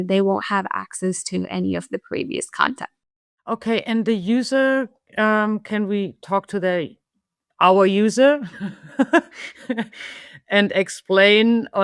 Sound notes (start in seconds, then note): 8.5 laughs